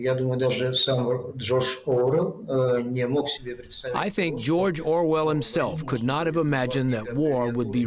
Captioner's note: through translator